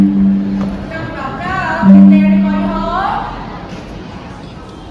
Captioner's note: knock, Knock, Knock